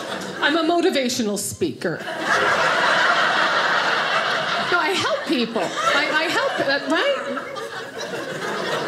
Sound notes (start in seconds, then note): 2.0 audience laughing